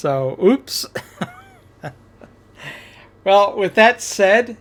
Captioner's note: laughs